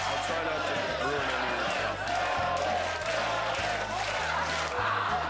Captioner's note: Crew chanting "Fallon!"